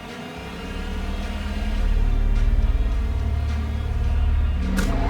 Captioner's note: engines revving